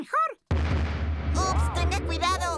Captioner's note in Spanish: retumbidos